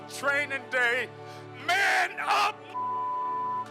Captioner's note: beep